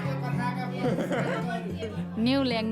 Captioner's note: laughs